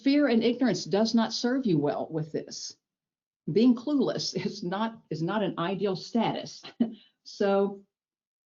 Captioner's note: chuckles